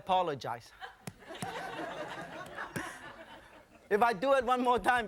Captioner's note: audience laughing